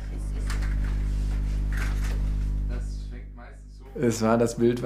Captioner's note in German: Leises Klappern, Gesprächsfetzen